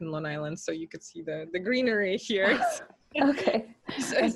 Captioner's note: laughs